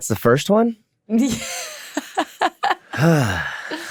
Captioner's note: laughs